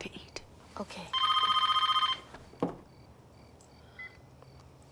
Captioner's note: phone ringing